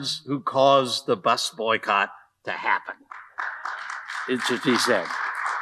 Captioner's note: audience applauding